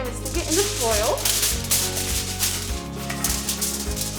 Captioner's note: foil crinkles